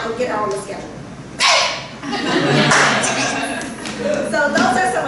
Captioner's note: laughter